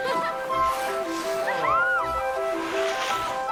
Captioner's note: cheering